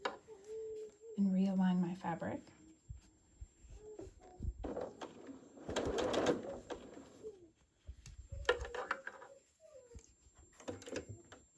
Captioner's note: sewing, moving fabric B, sewing again